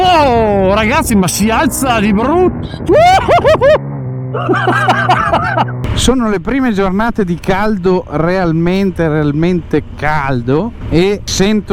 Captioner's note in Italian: risate